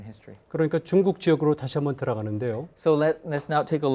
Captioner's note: speaking in Korean